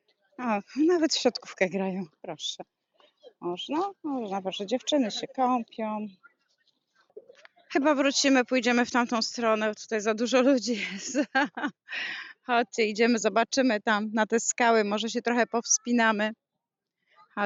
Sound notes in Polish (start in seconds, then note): 10.7 śmiech; 11.4 wciągnięcie powietrza